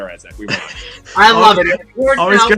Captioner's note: chuckles